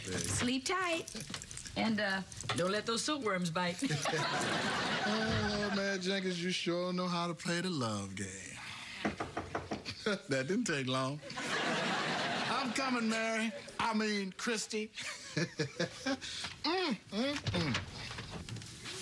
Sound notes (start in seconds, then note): 9.0 knock on door